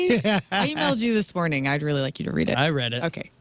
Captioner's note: laughing